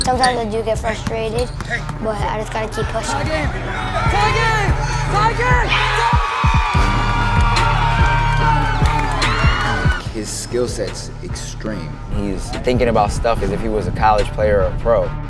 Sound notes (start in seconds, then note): 7.2 crowd cheering